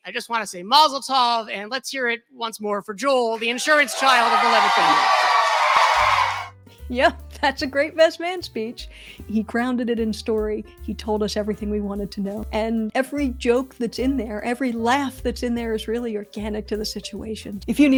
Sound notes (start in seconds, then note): 5.1 laughter & cheering